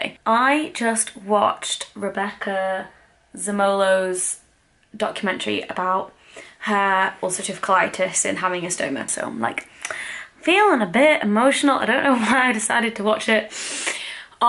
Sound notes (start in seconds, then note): none